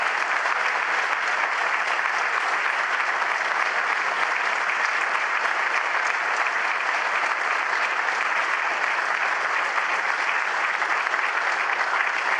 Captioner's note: applause